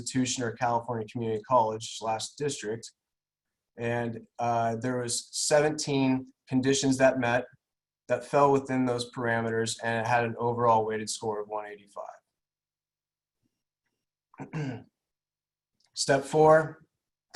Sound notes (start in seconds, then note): 14.3 clears throat